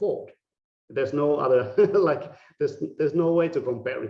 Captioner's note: laughing